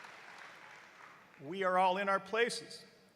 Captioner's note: cheers and applause